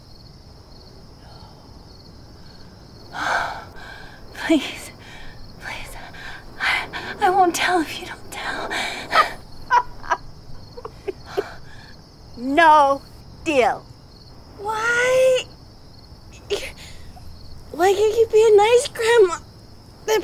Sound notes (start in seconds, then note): 3.1 sigh; 9.0 laughs